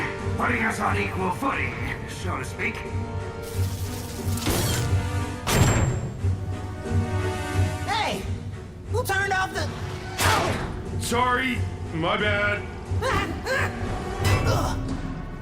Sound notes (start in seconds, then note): 9.6 yelling; 12.9 exclaiming; 13.0 grunting